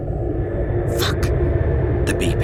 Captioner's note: quietly